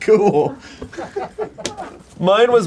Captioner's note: laughs; crew laughing